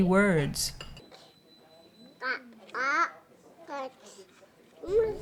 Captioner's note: makes word-like sounds